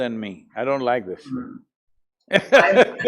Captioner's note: laughs